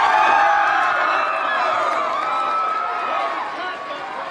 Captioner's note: all cheering